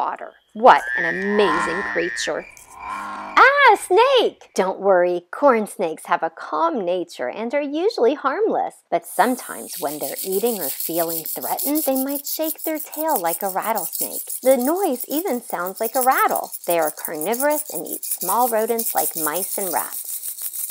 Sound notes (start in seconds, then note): 3.5 yelling in fear